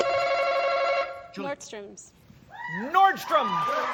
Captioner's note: button chimes